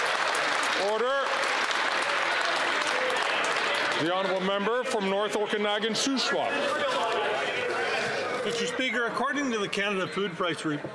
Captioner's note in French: applaudissements